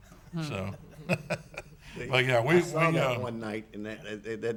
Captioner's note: laughs